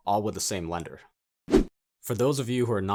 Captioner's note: air whooshing